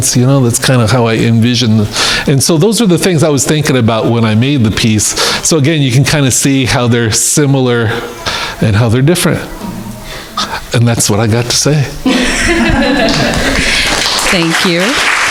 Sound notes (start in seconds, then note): 12.0 crowd laughing